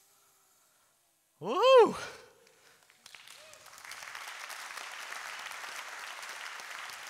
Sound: audience applauds

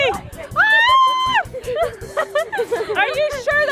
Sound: screaming and laughing

